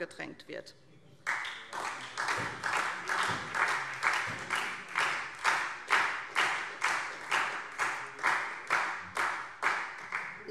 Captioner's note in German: Beifall SPD und Freie Demokraten